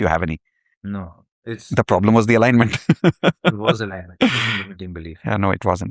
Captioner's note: laughter